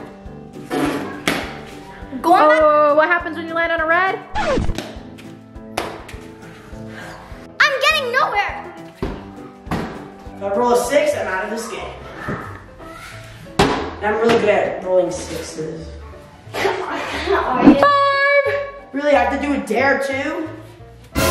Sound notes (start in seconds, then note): 13.6 giant cube hits floor